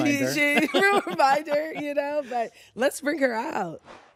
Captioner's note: laughs